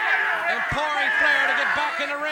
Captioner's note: crowd cheering